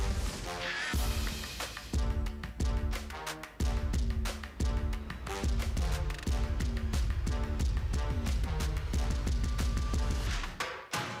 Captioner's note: audience applauds